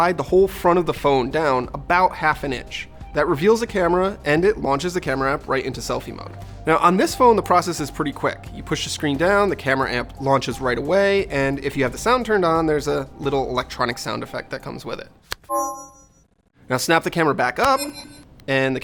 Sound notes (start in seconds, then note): 15.4 electronic sound; 17.6 electronic sound